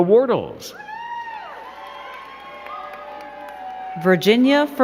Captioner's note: crowd cheering and clapping